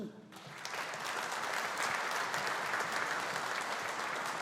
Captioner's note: audience applauding